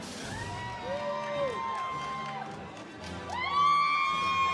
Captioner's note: audience cheers